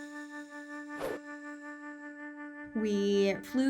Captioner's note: calm music; low whooshing